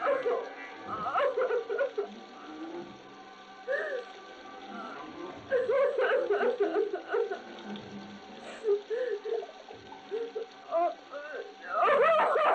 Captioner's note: laughter